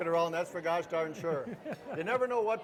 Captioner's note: laughing